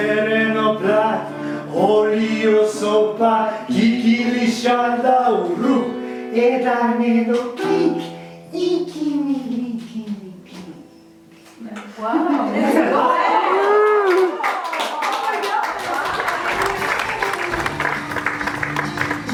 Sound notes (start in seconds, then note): 13.5 applause; 18.4 music with applause